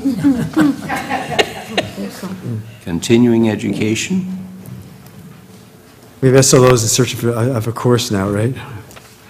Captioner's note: laugh